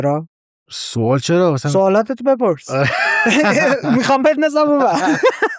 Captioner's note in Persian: خنده